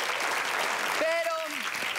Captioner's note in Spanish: Aplausos